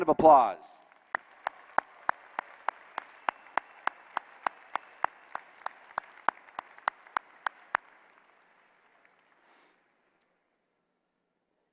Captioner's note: applause